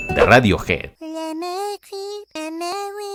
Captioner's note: demonic sounds